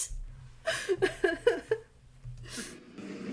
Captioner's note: laughing